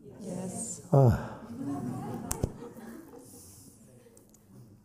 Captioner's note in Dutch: zucht